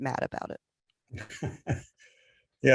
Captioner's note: laughter